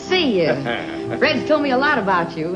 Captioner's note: Alvin laughing